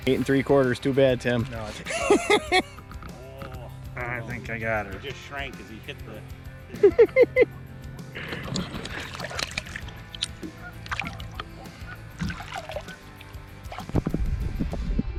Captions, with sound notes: - In three quarters too bad, Tim. (laughs) - I think I got her. - Just shrank as he hit the, you know, (giggles) (upbeat music)